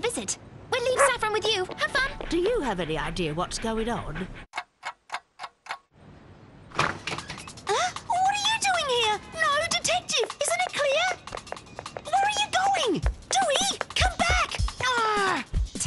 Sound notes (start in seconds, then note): 4.7 clock ticking